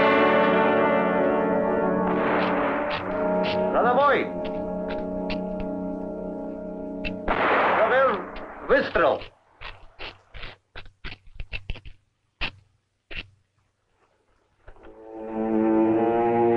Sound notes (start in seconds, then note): 2.0 guns blasting; 3.5 general speaking in Russian; 7.8 footsteps pattering; 14.8 suspenseful orchestral music